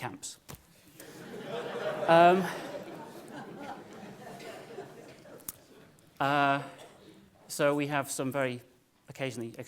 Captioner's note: laugh